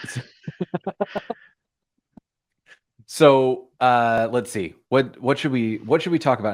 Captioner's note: laughter